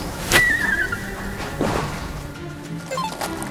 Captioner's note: gulp